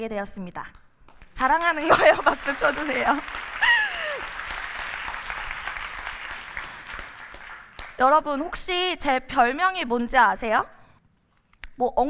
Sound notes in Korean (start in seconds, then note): 6.9 박수